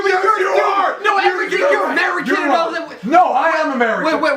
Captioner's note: incoherent yelling